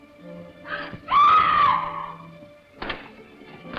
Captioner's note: screaming